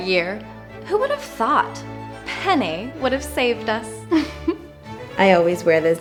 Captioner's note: giggle